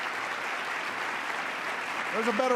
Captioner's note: applause